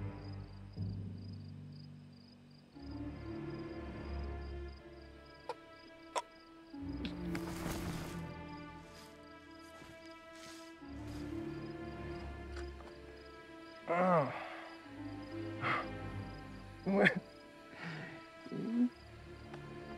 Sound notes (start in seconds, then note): 6.3 groans; 16.8 laughing